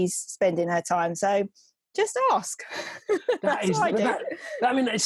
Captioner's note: laughs